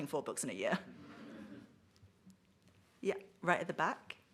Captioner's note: audience laughs